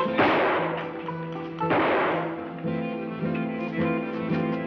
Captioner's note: gunshots banging